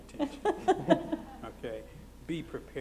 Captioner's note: laughter